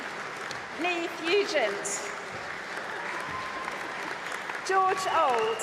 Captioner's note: applause